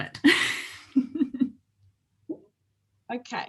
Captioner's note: both laugh